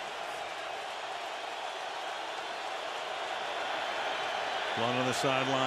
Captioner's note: crowd cheering